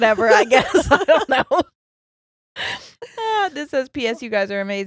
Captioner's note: laughing